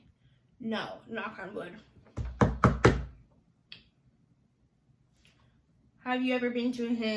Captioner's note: knocks on wood